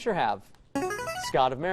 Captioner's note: buzzer